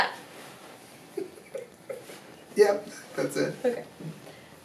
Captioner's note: laughs